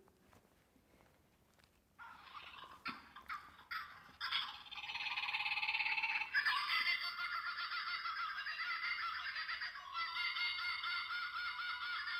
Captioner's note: toy bird sounds